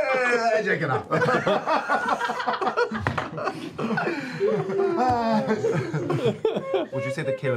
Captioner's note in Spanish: risas